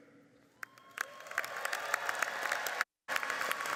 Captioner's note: applauding